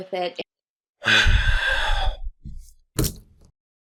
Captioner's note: sigh